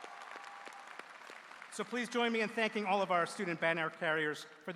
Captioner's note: cheers and applause